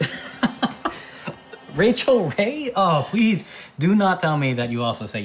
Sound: laughs

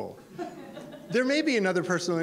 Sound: audience laughter

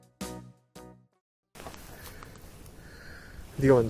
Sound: hesitant

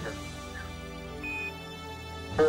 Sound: beeping sound

